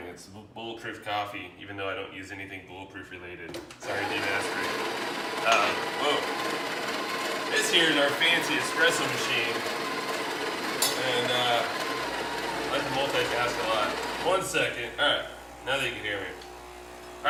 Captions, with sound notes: It's bulletproof coffee, even though I don't use anything bullet proof related. (machine whirrs) This here is our fancy espresso machine. And I multitask a lot. One second, alright, now that you can hear me.